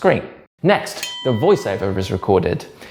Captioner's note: bell dings